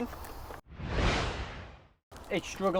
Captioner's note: whooshing